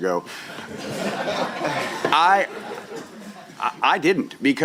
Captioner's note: laughter